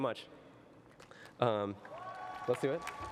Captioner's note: cheering and applause